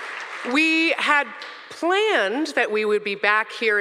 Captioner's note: audience cheering